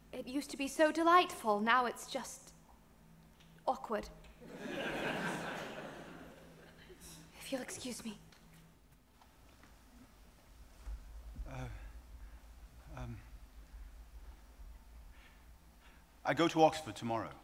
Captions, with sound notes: It used to be so delightful but now it's just awkward. (audience laughs) If you'll excuse me. - I go to Oxford tomorrow.